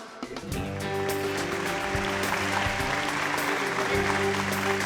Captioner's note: cheers and applause